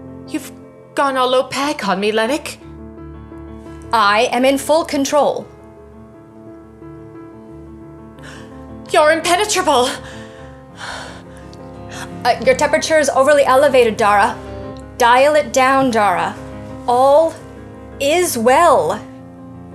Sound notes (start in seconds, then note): 8.2 gasps; 9.9 exhales